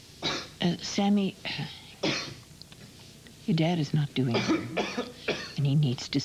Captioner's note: coughing